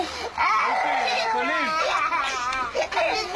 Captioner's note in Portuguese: As crianças choram